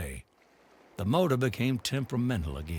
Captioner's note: water gushing